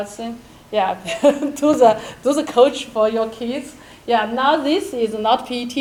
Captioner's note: chuckles